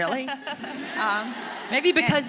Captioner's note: audience laughing